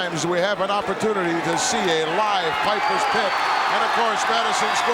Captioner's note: audience cheering